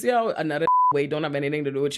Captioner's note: beep